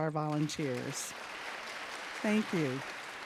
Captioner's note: audience applauds